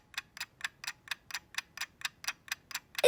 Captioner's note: ticking